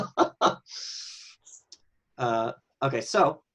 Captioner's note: laughs